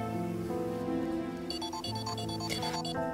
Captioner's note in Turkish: Telefon çalıyor